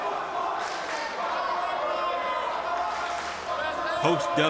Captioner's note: crowd chants and cheers